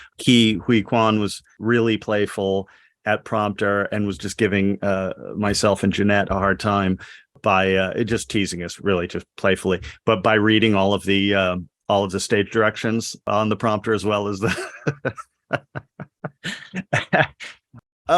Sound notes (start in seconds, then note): 14.3 laughs